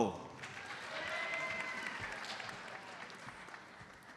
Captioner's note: audience applauds